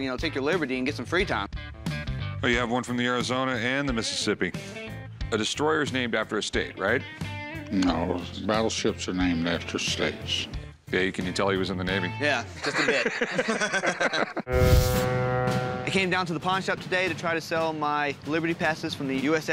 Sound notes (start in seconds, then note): 12.5 laughter; 14.5 ship's horn